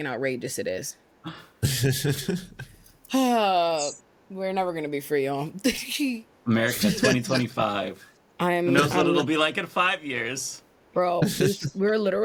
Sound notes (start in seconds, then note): 1.6 laughing